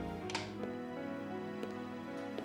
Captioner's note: clicks